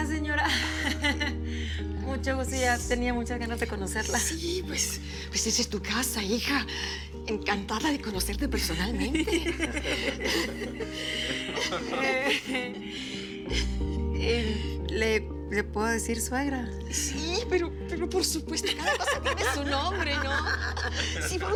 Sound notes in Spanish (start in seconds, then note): 9.0 Risas